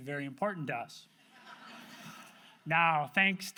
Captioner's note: audience laughs